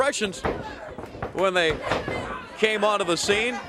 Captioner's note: crowd chatter